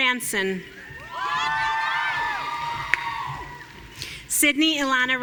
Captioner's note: audience cheering